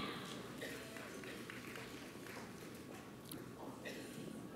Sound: audience applauds

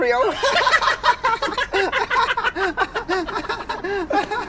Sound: laughter

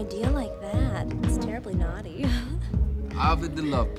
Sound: laughs

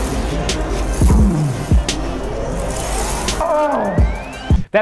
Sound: groaning

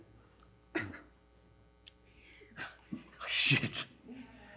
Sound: stifled laughter

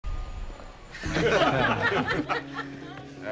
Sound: chuckling

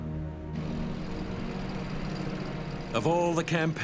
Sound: tank rumbling

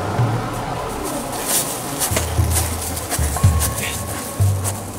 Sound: leaves rustling

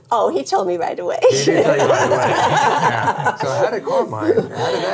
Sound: all laughing

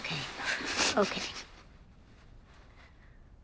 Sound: sniffles

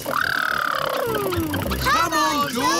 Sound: makes sputtering noises

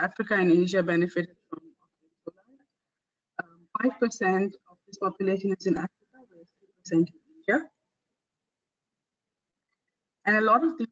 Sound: audio static; audio static

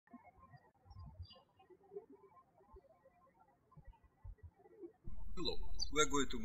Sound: birds chirping

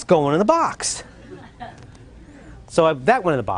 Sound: laughter

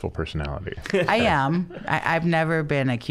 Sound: laughing

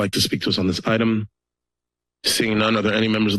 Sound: pause

